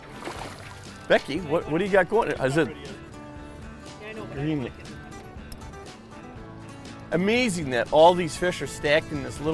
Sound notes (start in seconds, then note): 2.8 mumbling to each other; 7.7 voiceover